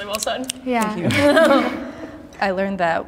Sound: fingers snapping

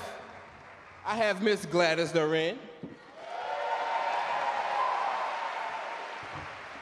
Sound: audience cheer and clap

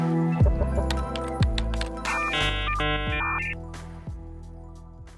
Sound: keyboard clicking

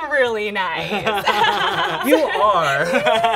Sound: laughs

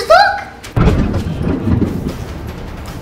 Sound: thunder rolls; exciting music

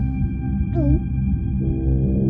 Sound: gulp

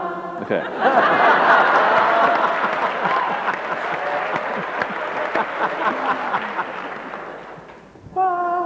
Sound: laughter

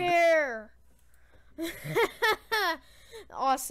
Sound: laugh + weird cough sound

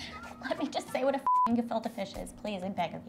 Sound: beep

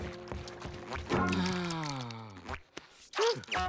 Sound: sighing

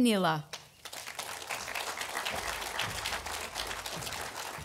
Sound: audience applauding

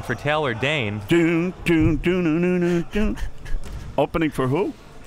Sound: humming

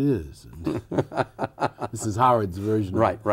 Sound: laughter

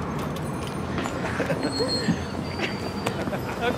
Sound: laughing

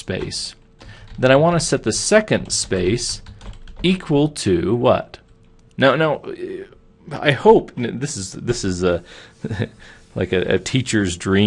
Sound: chuckling

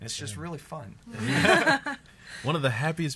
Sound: laughs

